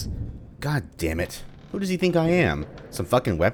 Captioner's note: thunder